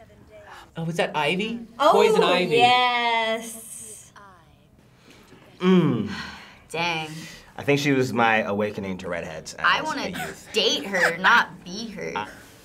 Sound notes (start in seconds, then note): 5.6 sighs